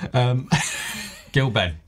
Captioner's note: laughs